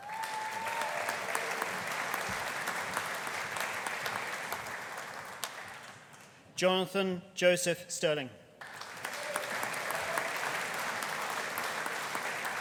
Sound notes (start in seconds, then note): 0.0 audience cheering; 0.0 audience applauding; 8.6 audience applauding